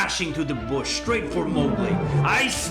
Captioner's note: roaring